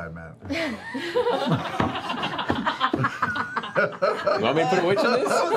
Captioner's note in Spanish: risas